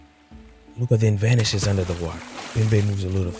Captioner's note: splash